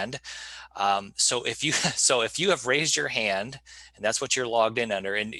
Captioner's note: chuckling